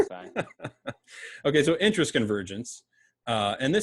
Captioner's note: laughs